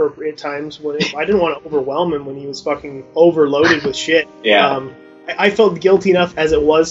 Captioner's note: interviewer laughs